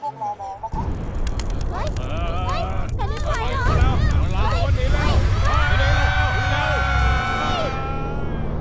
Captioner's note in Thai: เสียงประชาชนตื่นตระหนกและตกใจ